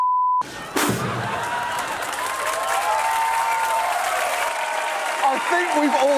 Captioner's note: laughter, cheers, applause